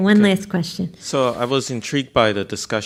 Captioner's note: voiceover